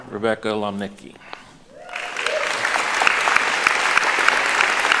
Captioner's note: applauding